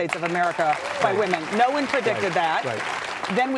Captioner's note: audience clapping